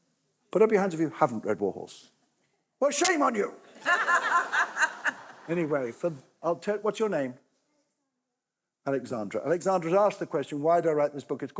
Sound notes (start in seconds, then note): 3.7 laughter